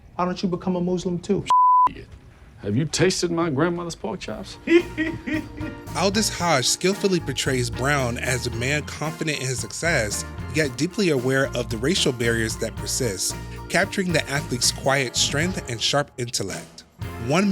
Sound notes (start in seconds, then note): 1.5 beep; 4.6 laughing